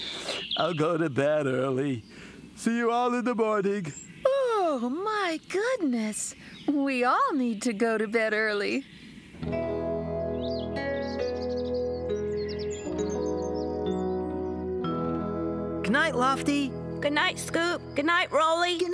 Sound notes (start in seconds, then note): 3.9 yawns